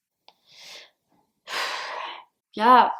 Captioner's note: sigh